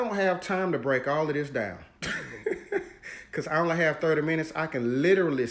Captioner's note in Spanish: se ríe